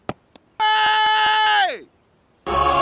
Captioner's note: screams